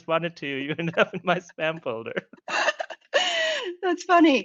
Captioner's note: laughs